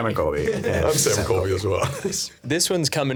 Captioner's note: laughing